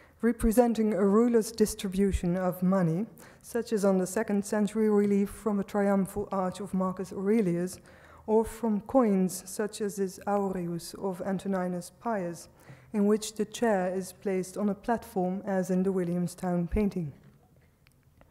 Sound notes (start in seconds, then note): none